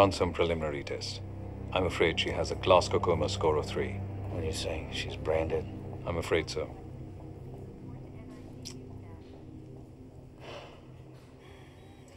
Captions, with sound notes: preliminary tests. I'm afraid she has a Glasgow Coma Score of three. What are you saying, she's brain dead? I'm afraid so. ( sighs )